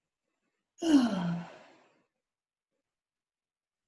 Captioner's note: sigh